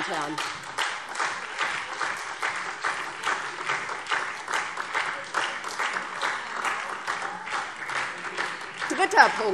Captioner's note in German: Beifall